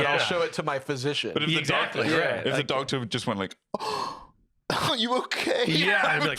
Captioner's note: gasps